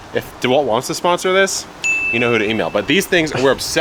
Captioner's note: bell pinging